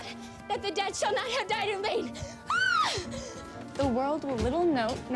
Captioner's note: yells